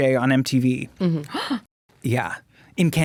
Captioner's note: gasps